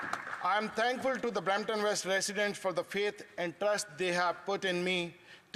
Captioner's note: some Applause